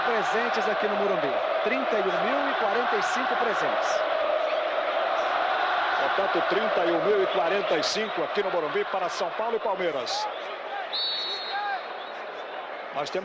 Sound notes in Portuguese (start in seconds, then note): 5.2 aplausos